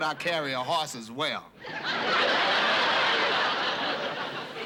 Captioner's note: laughter